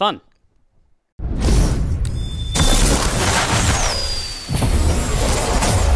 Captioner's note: Whooshing sound as Rocket crashes and explodes the rings